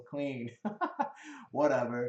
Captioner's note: laughs